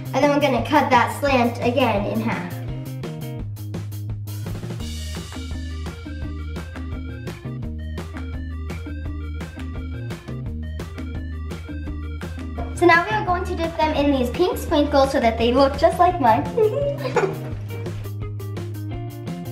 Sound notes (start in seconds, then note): 4.5 upbeat music; 16.4 giggling